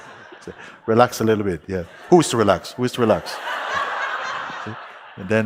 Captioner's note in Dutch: Gelach